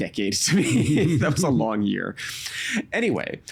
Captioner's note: chuckling